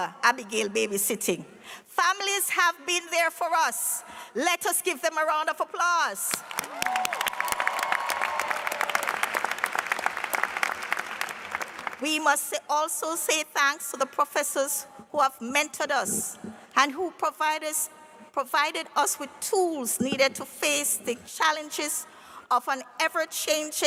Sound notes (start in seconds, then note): 6.5 cheers and applause